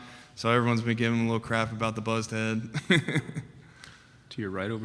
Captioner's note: laughs